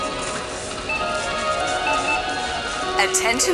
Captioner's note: beeping